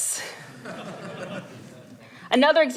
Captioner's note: laughter